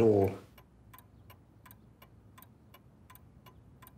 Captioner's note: clock ticking